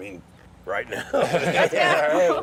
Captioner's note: laughter